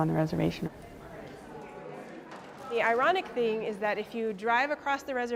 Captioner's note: crowd murmuring